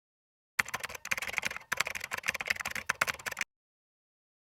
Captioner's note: keyboard keys clanking